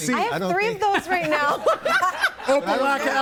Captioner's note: everybody laughing